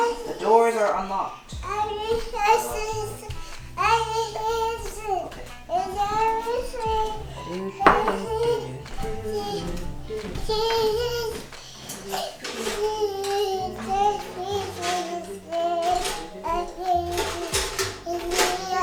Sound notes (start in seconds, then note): 3.7 babble